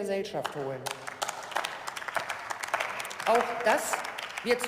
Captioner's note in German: Beifall